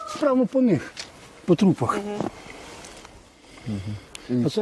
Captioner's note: rooster crowing